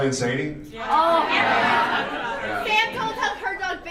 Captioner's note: audience confirms